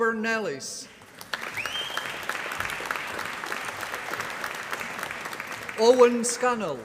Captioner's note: applause